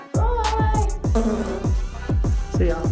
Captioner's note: fart noise